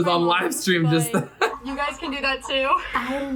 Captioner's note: laughs